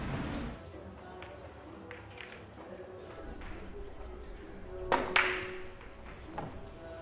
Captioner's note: billiards being played